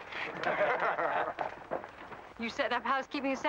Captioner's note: men laugh